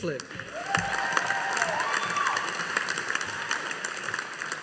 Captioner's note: audience applauding